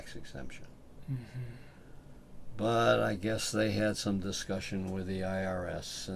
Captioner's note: sighs